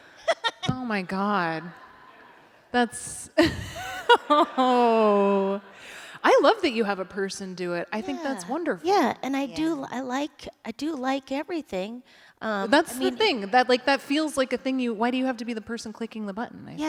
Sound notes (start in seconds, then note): 3.3 laughter